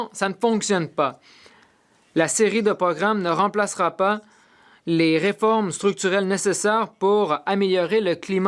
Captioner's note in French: voix de l'interprète